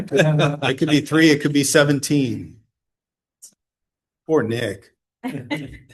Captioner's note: laughter